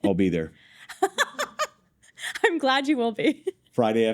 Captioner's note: laughs